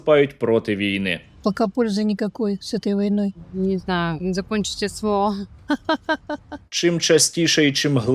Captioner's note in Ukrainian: сміх